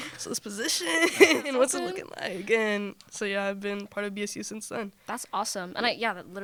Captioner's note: laughter